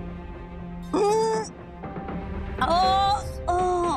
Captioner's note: moaning